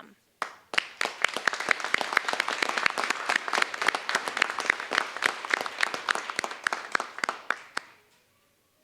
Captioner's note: applause